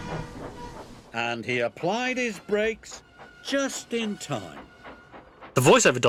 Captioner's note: chuffs decreasing in speed with a low metallic creaking sound; chuffs decreasing in speed with a higher metallic creaking sound